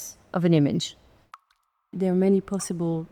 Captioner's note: water dripping